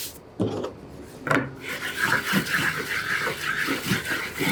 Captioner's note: paper scraping